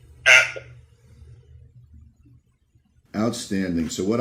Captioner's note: audio goes silent